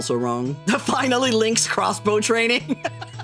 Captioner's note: laughing